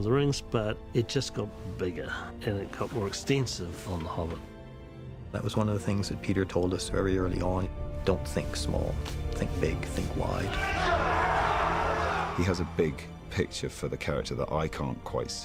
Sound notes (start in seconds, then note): 10.4 all shouting